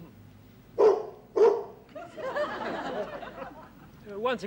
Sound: horn barks like a dog

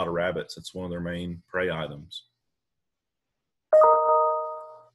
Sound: ping sound

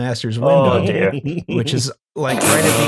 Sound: chuckles; laughter

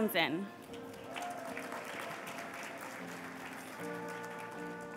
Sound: applause

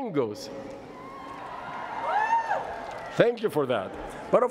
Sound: cheering

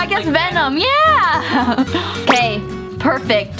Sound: laughs

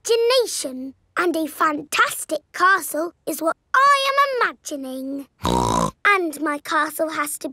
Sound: snorts

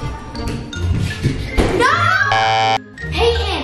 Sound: goofy music; beeps buzzer

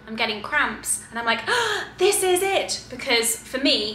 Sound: gasps

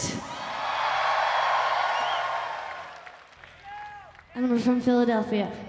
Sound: audience cheering

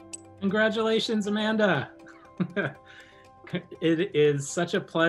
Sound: laughing

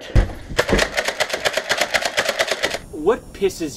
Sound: toy gun clicking

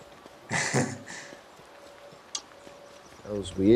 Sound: laughs

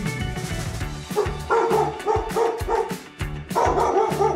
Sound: dog barking

